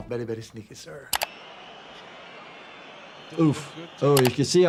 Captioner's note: stadium buzzing; keyboard clicking